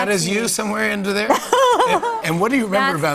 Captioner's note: laughs